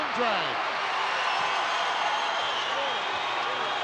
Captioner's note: crowd cheering